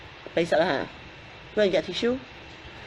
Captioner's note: speaks in foreign language